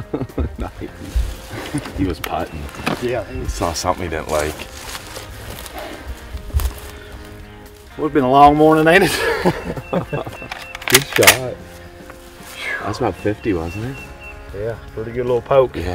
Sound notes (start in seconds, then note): 0.0 laughs; 9.0 laughs